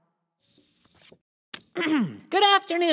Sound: Leo clears his throat

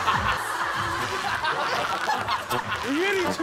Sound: rubbing

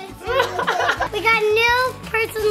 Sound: laughing

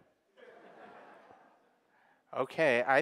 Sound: audience laughing

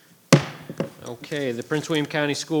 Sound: gavel hits

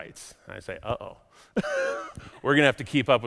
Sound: laughs

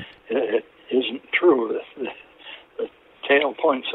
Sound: laughs

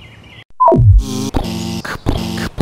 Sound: beep; buzz; pounding footsteps

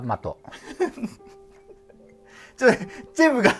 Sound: laughing

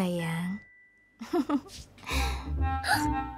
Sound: laughing

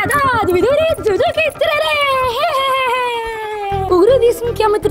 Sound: Minion language

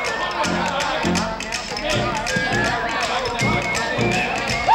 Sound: players chatter

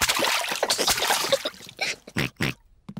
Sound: giggles; oinks

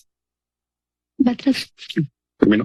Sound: speaks in Spanish

